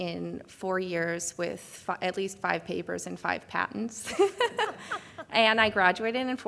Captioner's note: laughs